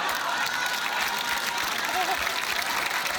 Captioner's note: applause